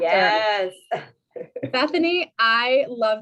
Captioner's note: laughter